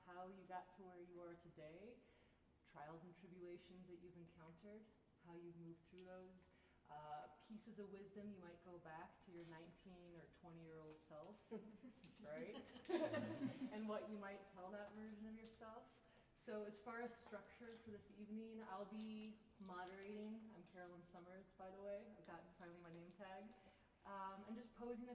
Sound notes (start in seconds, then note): 12.3 laughter